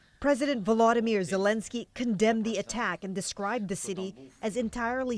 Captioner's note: speaking alternate language